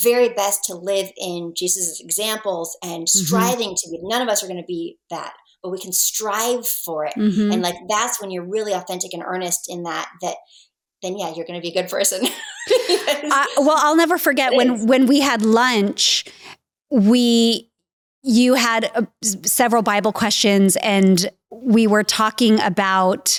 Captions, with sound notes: truly doing their very best to live in Jesus' examples - Mm hm. - and striving to be, none of us are gonna be that, but we can strive for it. - Mm hm . - And like that's when you're really authentic and earnest in that, then yeah, you're gonna be a good person. (laughs) - Well, I'll never forget when, when we had lunch, we, you had several Bible questions and we were talking about